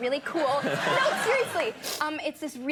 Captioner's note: audience laughing